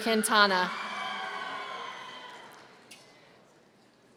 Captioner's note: audience cheering